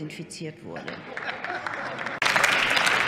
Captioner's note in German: Heiterkeit und Beifall bei der SPD sowie bei Abgeordneten der CDU/CSU